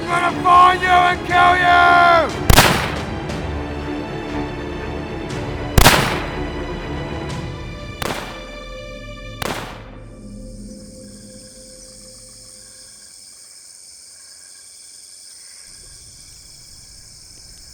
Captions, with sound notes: I gonna find you and kill you! (gun firing) (suspenseful music) (crickets chirping)